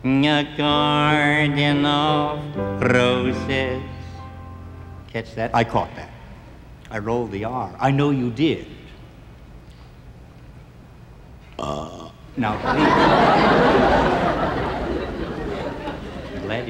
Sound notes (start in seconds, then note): 11.5 Lefty burps; 12.4 audience laughing